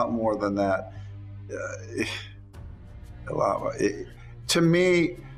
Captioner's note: stammering